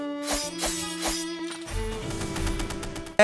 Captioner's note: dramatic string music; sword slashing; Yolvan firing projectiles